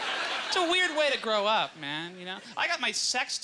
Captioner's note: audience laughter